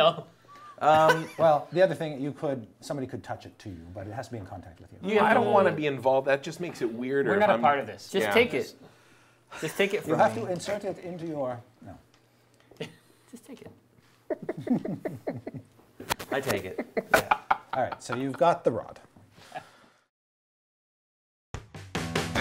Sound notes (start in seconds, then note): 14.2 laughing